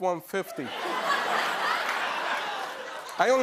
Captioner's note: laughter